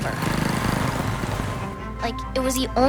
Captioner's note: motor engine rumbling; lively music